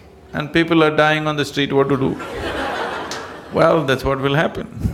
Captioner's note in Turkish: gülüşler